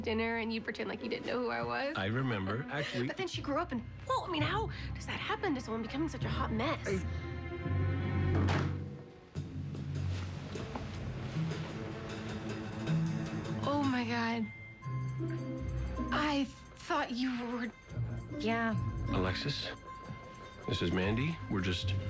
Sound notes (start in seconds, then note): 2.4 chuckles; 8.3 thuds